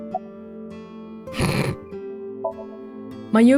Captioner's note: snickers